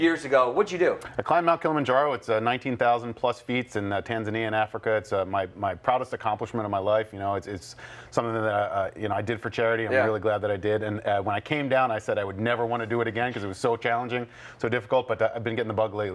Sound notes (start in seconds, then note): none